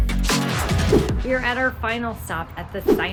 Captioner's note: image whooshes